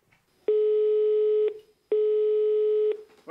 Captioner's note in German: Freizeichen im Telefon